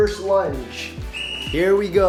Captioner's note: whistle shrilling